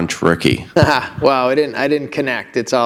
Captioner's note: chuckle